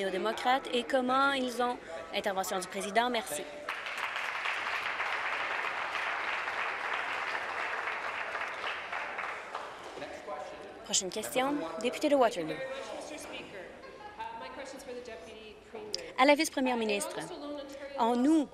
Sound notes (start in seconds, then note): 5.4 voice trailing; 6.8 applause